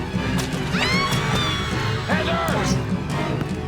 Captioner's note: screaming